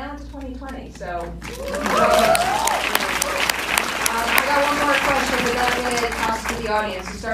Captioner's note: applause